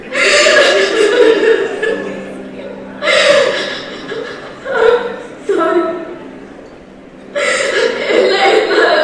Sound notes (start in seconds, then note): 0.0 starts sobbing